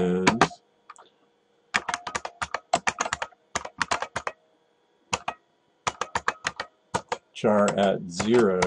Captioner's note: typing